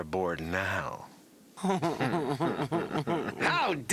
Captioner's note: snicring